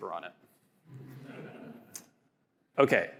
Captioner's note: audience laughing